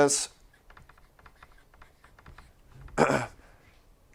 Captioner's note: marker squeaking; clearing throat